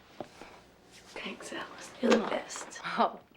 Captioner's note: chuckles